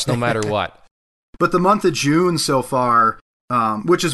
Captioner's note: chuckles